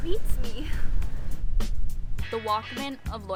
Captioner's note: sighs